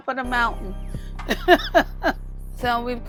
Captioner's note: laughing